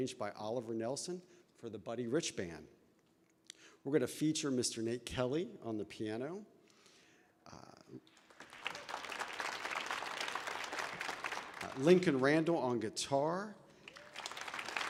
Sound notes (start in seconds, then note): 8.0 audience applauding